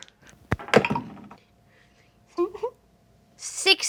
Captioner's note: dice clatter